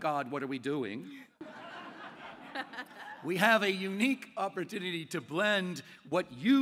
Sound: laughter

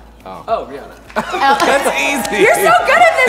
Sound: laughs

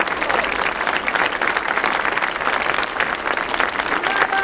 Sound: audience applauding

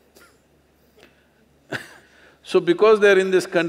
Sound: laughs

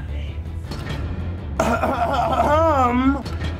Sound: coughing

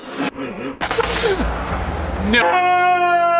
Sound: spits

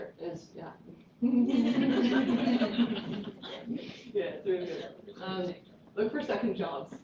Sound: laughter

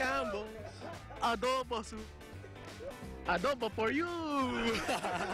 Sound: laughter

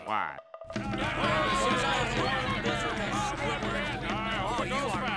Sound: crowd shouting

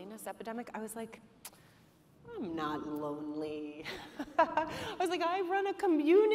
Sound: laughs

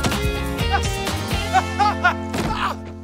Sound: grunting

